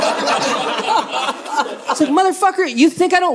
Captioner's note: audience laughing